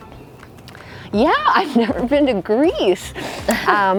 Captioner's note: both laugh